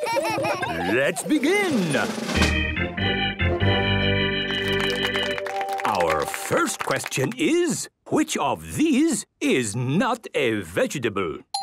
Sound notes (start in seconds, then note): 0.8 gameshow music; 2.1 clapping